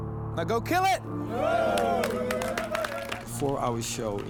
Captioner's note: cheering